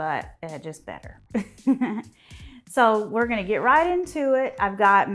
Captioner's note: chuckles